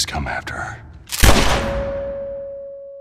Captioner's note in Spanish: disparo